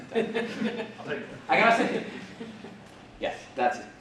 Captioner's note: laughing